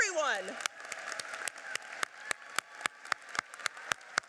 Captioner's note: applauding